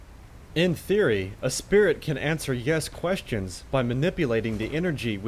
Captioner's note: voiceover